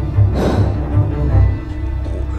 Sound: exhale

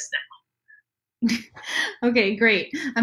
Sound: laughs

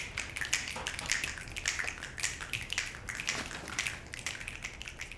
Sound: people snapping fingers

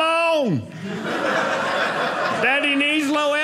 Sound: audience laughing

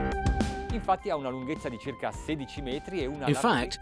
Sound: speaking in foreign language

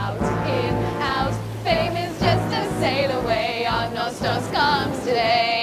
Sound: waves crashing

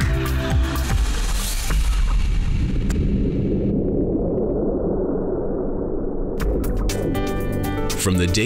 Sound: thunder

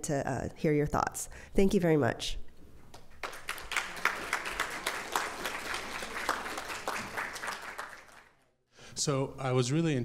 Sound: applause

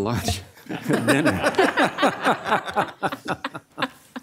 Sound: audience laughing

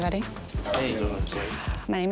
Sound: indistinct chatter

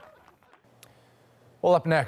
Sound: cheers and Applause

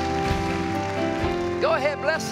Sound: cheers and applause

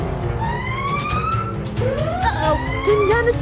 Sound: siren wailing

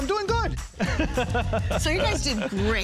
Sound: laughs

